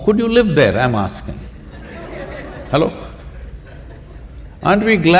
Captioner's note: laughter